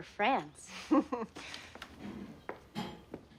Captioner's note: laughs